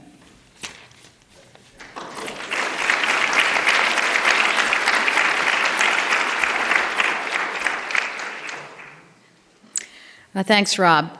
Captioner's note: applause